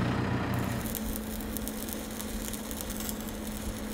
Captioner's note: welder sputtering